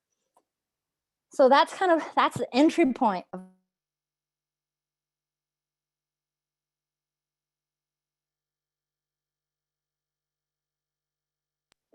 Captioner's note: audio cuts out